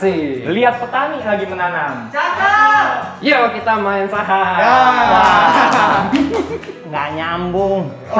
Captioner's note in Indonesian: tepuk tangan